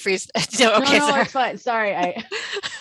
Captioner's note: laughs